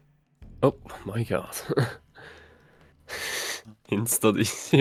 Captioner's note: haha